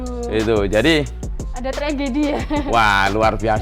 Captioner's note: laugh